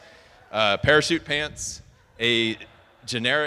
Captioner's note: attendees laughing